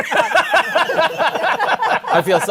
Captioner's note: laughter